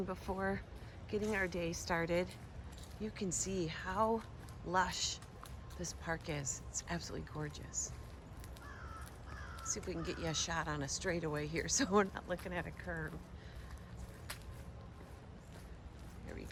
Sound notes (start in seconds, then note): 8.7 birds chirping; 14.2 foot shuffling